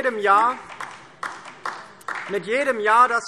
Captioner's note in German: Beifall DIE LINKE